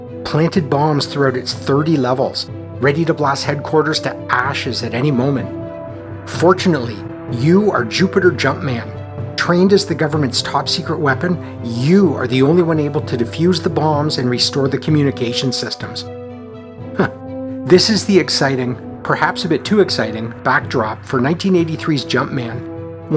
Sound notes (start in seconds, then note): 16.9 chuckles